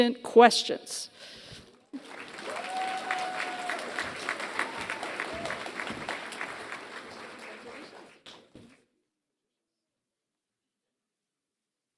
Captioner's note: applause